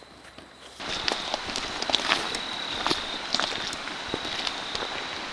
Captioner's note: walking, rustling